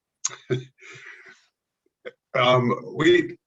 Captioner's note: chuckles